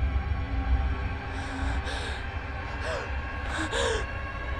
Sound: scared breathing

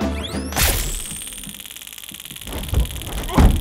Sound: electricity crackling

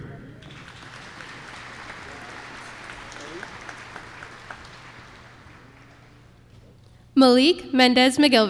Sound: applause

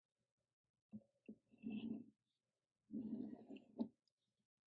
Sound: pencil scratches

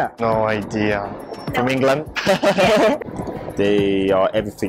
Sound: laughs

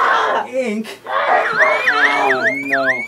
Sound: alarm

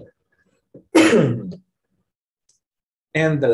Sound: coughing

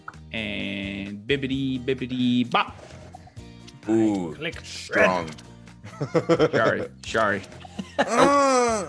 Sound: laugh

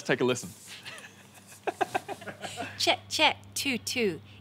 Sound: laughing

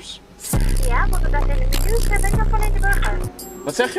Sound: subwoofernoise

